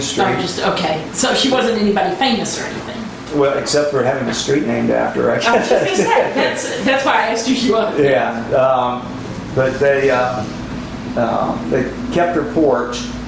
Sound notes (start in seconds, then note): 5.4 laughs